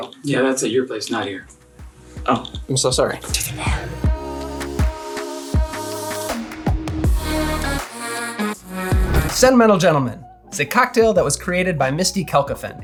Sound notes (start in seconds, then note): 3.2 whisper; 5.3 intro music